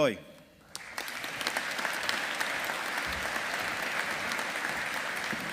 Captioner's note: audience applauding